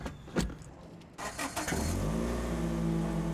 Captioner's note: car starts